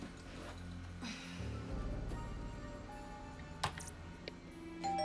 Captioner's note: sighs; keyboard key clicks; computer beeps